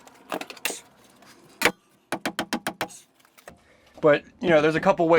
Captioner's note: hammering